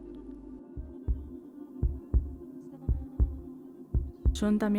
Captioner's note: sound of heart beating